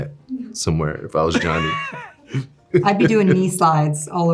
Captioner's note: Jonathan laughing